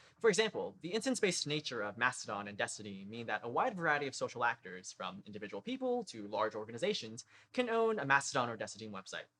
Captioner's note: none